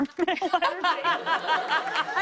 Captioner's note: laughter